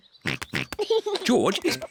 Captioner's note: snorts and giggles